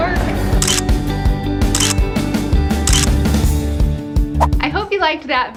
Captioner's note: upbeat music; camera clicking